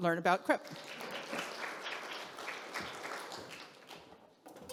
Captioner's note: audience clapping